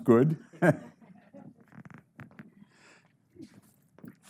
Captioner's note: chuckling